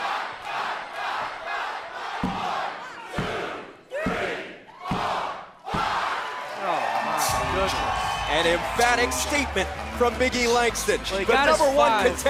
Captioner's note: crowd cheering